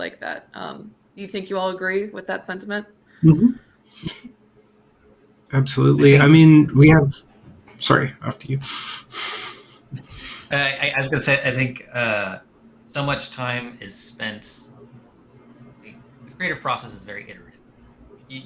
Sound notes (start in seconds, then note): 8.5 chuckles